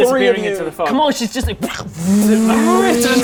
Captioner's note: vroooom